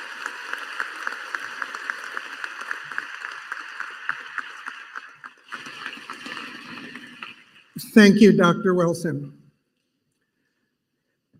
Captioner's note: applause